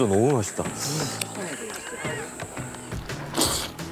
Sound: chew; bite

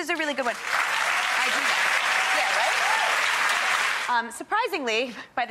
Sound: audience claps

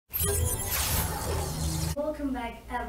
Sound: sci-fi portal

